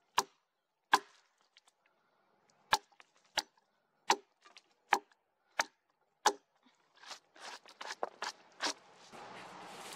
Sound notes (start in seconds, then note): 0.0 footsteps, more axe knocking on wood; 7.0 brushing with the gloved hand; 8.9 branches and leaves crackling, effort grunts